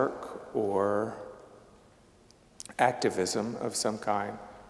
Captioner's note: none